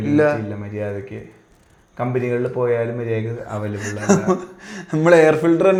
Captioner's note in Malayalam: പൊട്ടിച്ചിരി